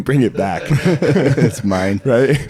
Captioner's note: laughing